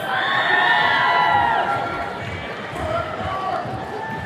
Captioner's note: attendees cheering